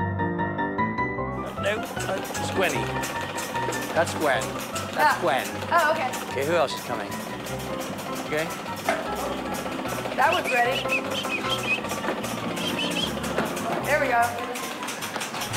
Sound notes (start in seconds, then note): 10.2 whistling